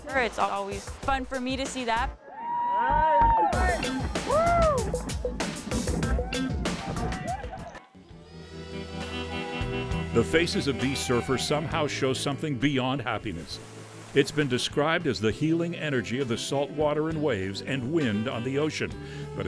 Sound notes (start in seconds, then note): 2.2 cheering